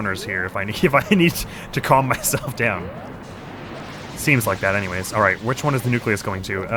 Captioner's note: laughs